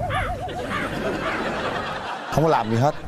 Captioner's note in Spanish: risas